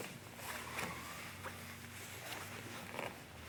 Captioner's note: soft shuffling